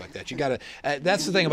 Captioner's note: laughter